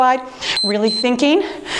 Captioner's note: timer beeps